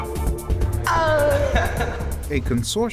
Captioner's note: laughing